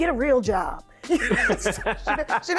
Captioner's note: laughing